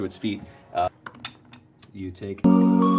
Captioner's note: rolls die